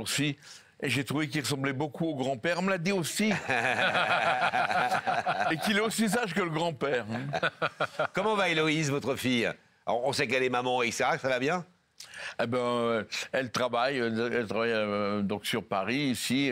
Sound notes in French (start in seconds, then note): 3.3 rires